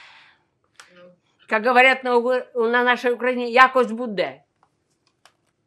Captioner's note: ukrainian